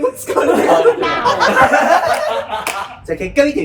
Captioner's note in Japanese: 笑い声